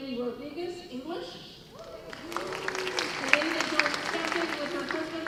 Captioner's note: applause